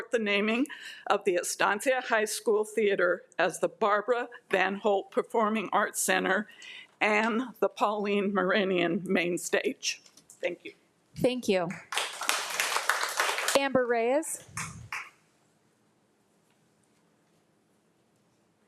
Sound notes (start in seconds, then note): 11.8 audience applauding